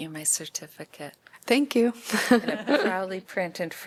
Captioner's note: laughter